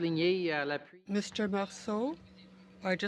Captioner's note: speaking french